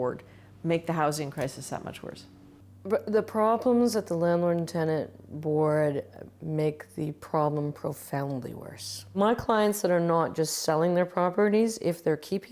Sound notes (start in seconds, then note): none